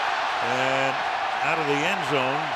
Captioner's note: cheering